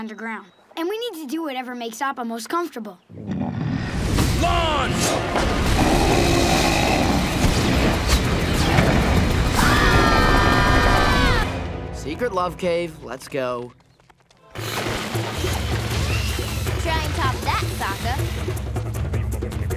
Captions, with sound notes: And we need to do whatever makes Appa most comfortable. [grunting] Launch! [grunting] [screaming] Secret love cave, let's go. Try and top that, Sokka.